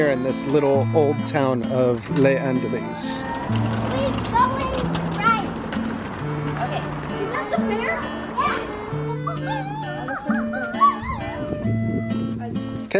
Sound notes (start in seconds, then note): 5.6 scooter clacking; 8.9 french folk music continues